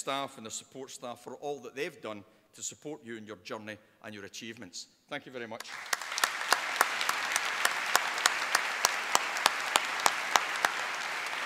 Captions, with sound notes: and the support staff for all that they've done to support you in your journey and your achievements. Thank you very much. (APPLAUSE)